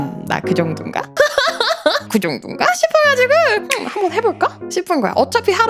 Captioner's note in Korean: 웃음